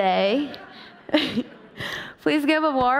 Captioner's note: chuckles